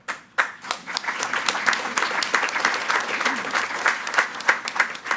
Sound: attendees clapping

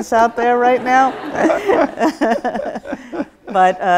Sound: laughs

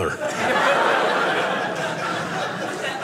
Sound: audience laughing

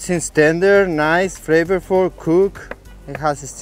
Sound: knife chopping

